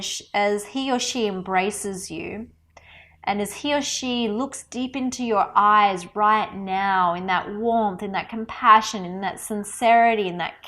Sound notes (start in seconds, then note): none